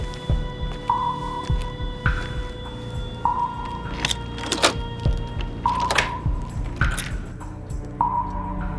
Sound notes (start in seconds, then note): 4.4 lock clicking